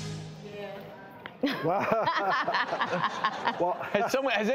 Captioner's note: laughing